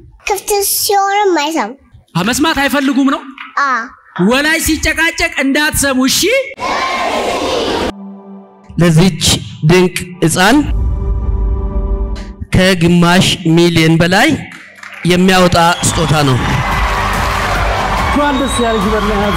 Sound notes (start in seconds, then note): 14.4 applause